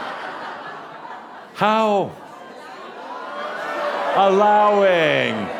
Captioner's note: lots of laughter; audience shouts “Allowing”